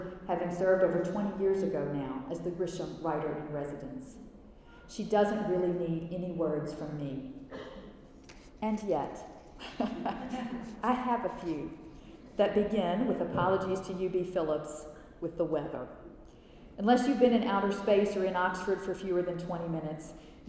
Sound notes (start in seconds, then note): 9.6 laughter